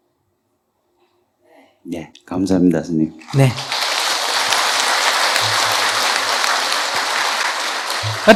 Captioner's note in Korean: 청중 박수